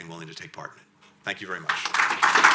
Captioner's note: applause